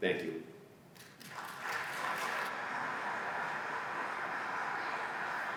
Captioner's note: applause